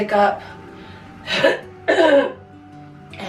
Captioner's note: clearing throat